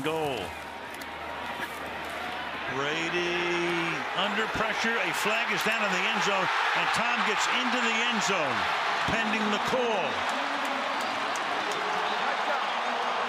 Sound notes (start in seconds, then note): 10.6 crowd cheering